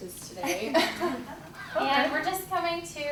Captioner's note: laughing